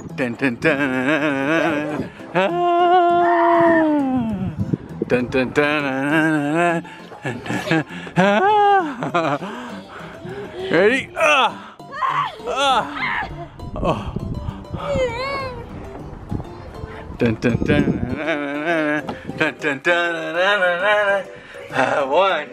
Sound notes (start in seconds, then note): 11.5 squealing; 11.8 groaning